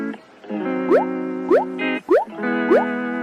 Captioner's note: bloop